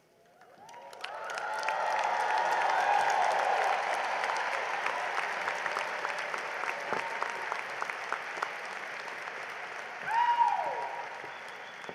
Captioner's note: cheering and applause